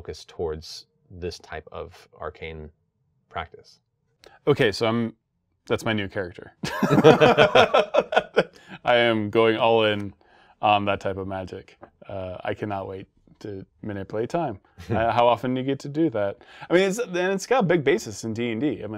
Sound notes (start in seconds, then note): 6.6 both laughing